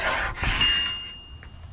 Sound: bell rings

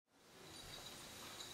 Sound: bottles clinking

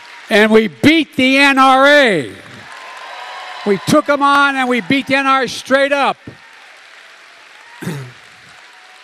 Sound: applause

